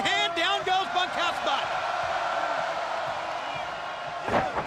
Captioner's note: crowd cheering